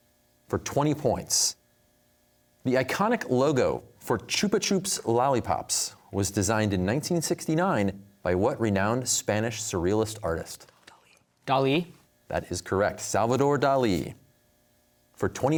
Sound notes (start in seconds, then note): 10.8 whispering